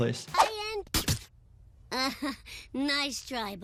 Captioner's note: laughs